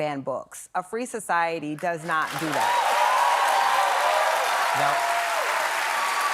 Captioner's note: applause